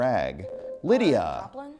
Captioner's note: buzzer